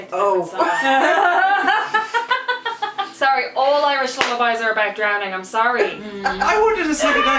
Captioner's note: laughter